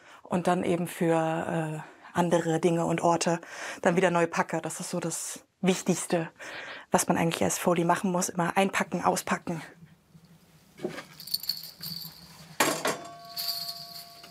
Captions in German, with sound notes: Und dann eben für andere Dinge und Orte dann wieder neu packe, das ist so das Wichtigste, was man eigentlich als Foley machen muss. Einpacken, auspacken. (Rascheln) (Gong)